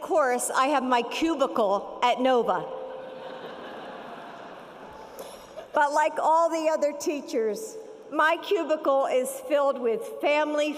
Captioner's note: audience laughs